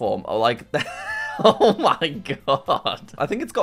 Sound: laughs

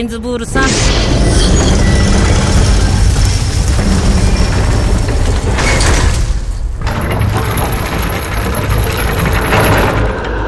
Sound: ship's door opens

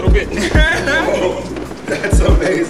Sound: laughs

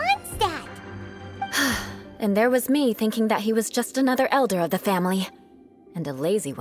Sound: sigh

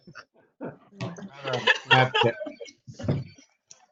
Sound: chuckling

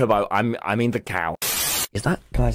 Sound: tv static noise; whispering

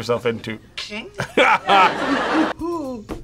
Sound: laughs

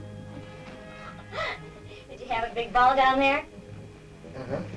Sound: laughs

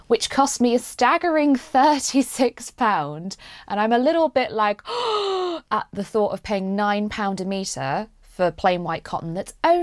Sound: gasps

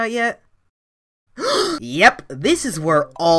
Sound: gasp

